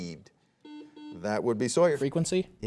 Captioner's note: soft beeping